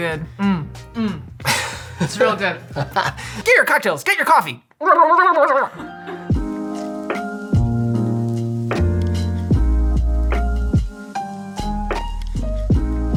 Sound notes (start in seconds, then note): 1.5 laughter; 4.8 hyper gobbling sound